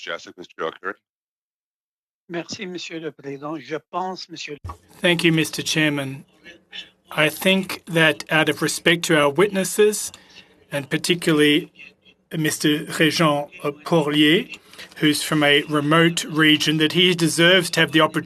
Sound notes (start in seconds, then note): 12.2 speaking French